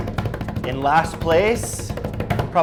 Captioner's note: drumming on the table